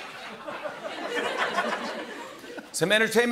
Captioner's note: laughter